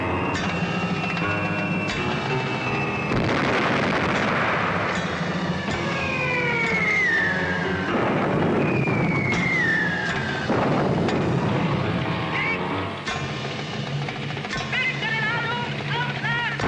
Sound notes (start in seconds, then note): 2.9 bomb blasting; 5.9 bombs blasting; 5.9 bombs whistling; 12.2 soldier shouts in foreign language